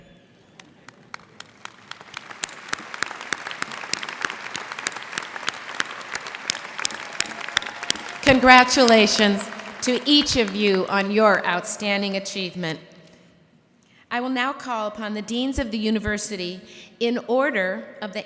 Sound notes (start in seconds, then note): 0.5 applause